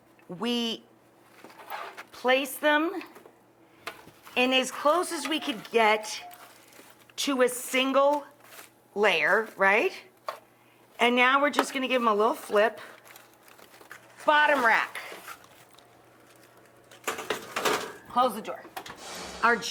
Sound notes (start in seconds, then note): 14.4 baking sheet scraping; 17.0 metal tapping